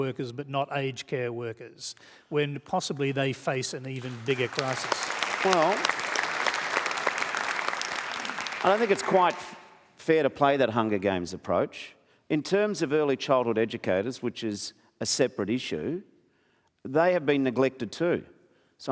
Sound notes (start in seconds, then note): 3.9 applause